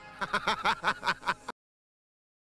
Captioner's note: laughs